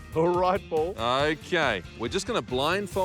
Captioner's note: none